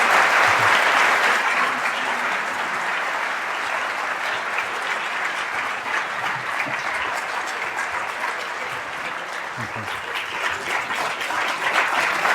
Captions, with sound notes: [LAUGHTER] THANK YOU VERY MUCH. [APPLAUSE]